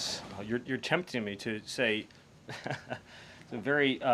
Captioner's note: laughs